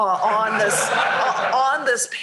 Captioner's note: laughter